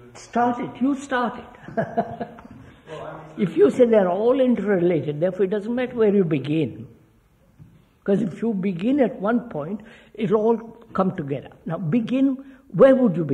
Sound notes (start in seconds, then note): 1.6 laughs